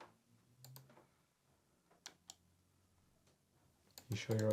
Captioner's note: computer mouse clicking